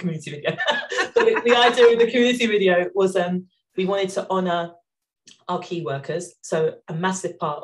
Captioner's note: laughing